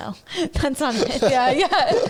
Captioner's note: laughing